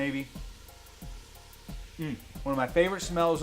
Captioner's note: mellow music; sizzling